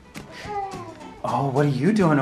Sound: baby coos

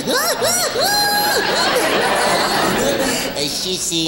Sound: giggles; audience laughing

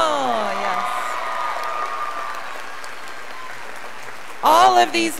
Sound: audience applauding

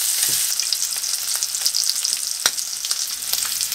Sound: sizzle

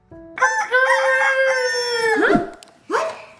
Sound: rooster

